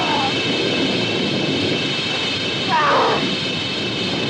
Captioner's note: struggling sounds